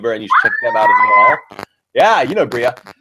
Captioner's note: screams